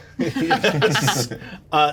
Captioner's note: laughter